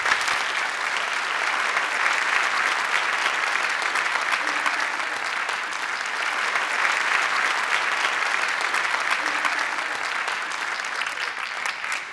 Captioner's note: applause